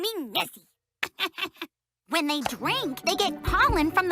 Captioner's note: laughs